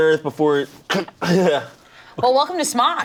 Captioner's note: imitates choking